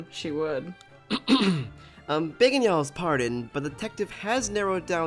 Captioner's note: clears throat